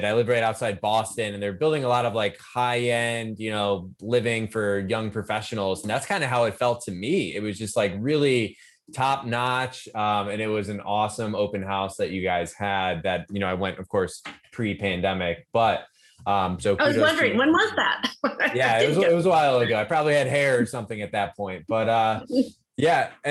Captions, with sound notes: I live right outside Boston and they're building a lot of like, high-end living for young professionals and that's kind of how it felt to me. It was just like really top notch and it was an awesome open house that you guys had that I went of course, pre pandemic - I was wondering when was that? (laughs) - It was a while ago. I probably had hair or something at that point, but yeah.